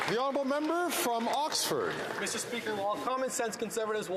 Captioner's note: some Applause